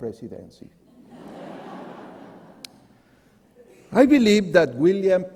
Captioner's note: audience laughing